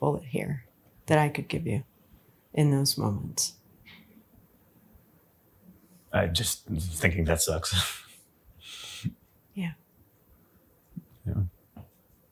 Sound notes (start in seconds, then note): 8.7 chuckles